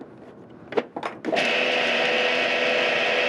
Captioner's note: food processor whirring